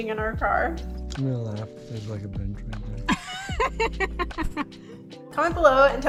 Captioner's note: laughs